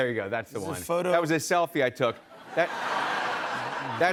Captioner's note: laughter